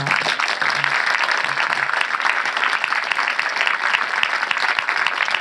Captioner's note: audience applauding